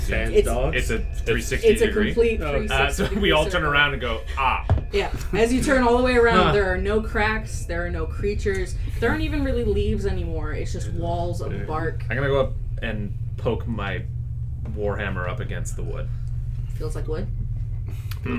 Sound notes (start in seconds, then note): 16.7 flatly